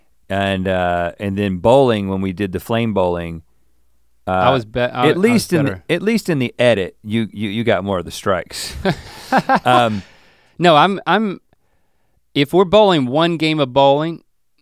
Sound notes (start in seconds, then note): 8.7 Link chuckles